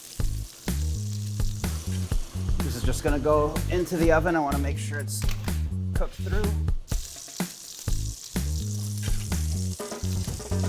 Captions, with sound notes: “This is just going to go into the oven. I want to make sure it’s cooked through.” [SIZZLING]